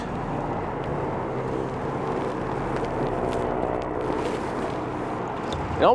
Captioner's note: vehicle engine droning